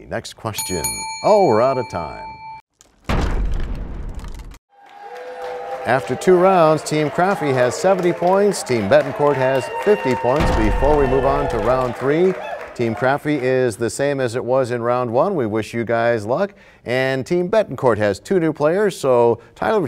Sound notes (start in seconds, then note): 2.8 crashing sound